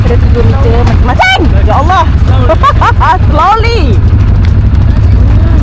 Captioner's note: laugh